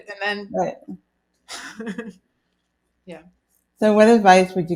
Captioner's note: laughs softly